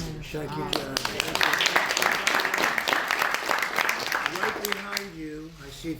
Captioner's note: applause